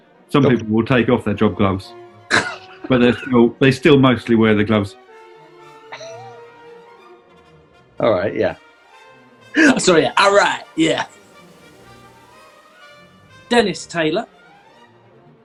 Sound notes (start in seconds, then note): 2.6 laughing; 5.9 giggling; 9.9 in affected accent